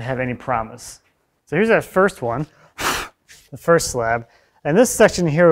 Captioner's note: blows